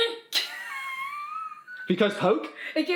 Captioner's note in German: lacht; Mama kichert